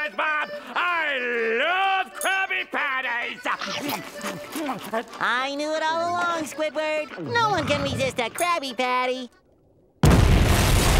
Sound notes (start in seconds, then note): 3.4 scarfing